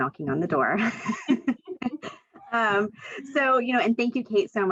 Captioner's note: laughs